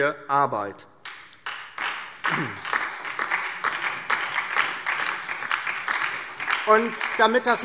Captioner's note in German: Beifall DIE LINKE und vereinzelt SPD